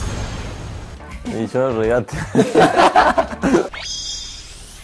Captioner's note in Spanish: risas